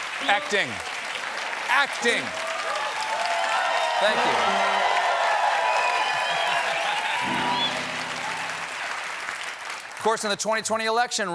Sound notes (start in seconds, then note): 0.0 applause; 2.5 cheers and applause